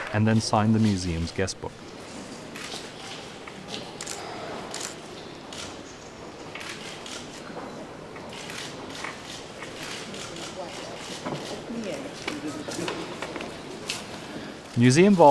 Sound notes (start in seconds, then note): 0.0 applause; 1.9 camera shutter sounds